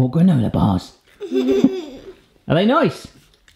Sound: giggles

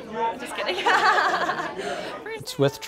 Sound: laughs

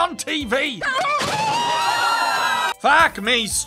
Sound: screaming

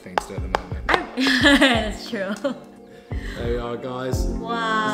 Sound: laughs

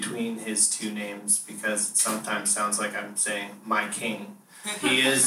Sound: laughter

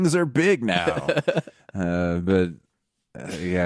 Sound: laughing

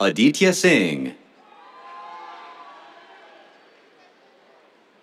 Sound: cheers

